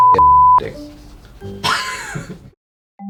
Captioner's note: laughs